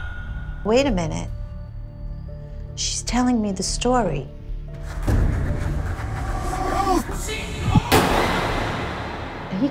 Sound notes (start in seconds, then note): 6.3 yelling; 7.8 gunshot